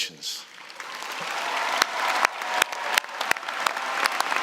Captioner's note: applause